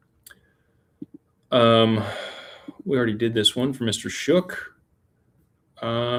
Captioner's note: sighs